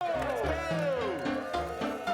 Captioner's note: crowd cheers